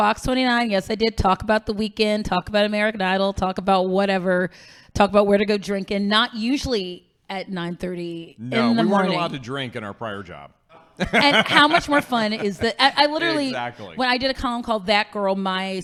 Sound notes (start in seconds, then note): 10.7 laughing